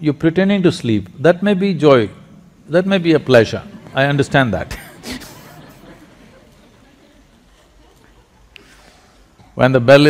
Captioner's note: laughter